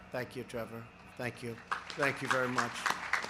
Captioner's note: applause